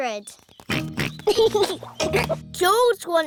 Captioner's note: oinks and giggles